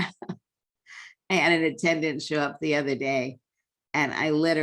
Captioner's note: laughter